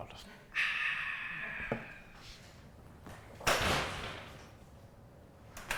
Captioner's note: Miles imitates crowd cheering